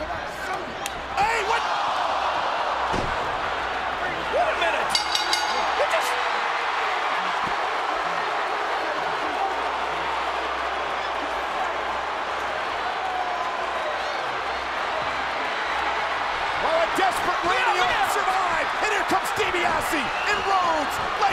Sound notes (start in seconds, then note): 4.8 bell dinging; 6.0 audience cheering